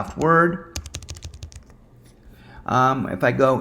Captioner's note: keyboard clacking